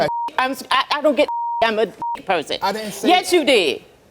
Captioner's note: beep